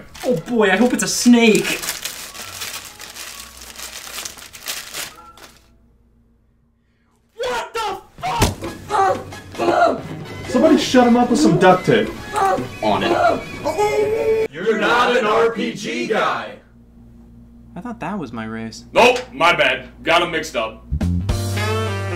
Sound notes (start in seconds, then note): 2.4 paper rustles; 9.1 grunts; 14.5 grunts